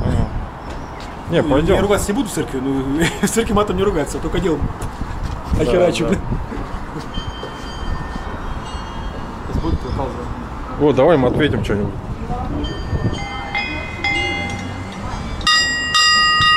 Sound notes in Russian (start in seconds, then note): 8.7 Звук с соседней колокольни